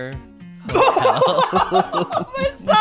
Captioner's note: laughs